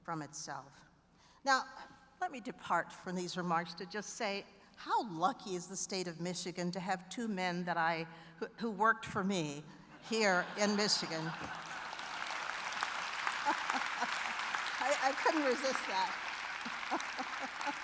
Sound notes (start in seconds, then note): 10.0 laughter; 10.6 applause